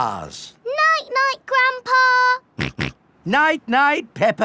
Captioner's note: snorts